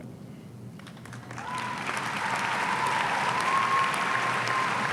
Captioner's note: audience cheering